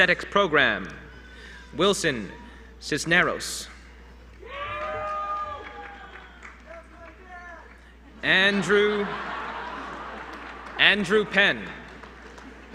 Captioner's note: applause